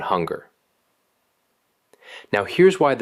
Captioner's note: pause